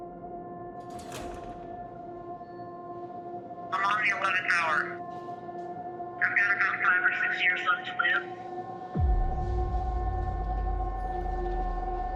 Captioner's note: cell door latches